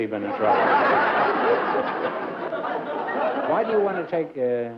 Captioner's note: laughter